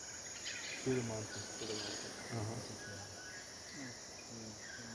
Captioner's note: both chattering